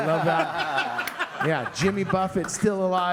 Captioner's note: all laughing